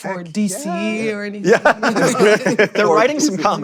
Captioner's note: laughs